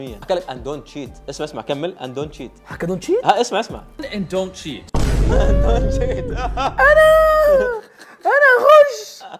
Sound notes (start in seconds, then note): 5.0 gasps